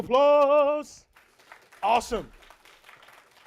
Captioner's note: clapping